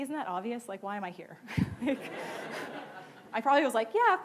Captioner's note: laughing